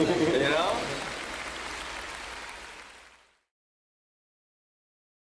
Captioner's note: audience applauding